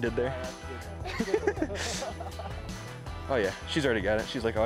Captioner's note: laughs; laugh